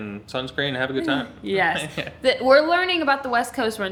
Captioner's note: laughs